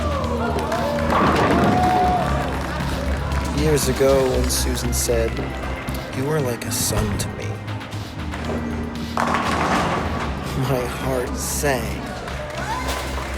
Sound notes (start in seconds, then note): 0.1 bowling pins clattering; 2.0 league applauding; 10.3 pins clattering